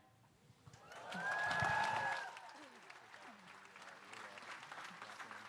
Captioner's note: audience applauding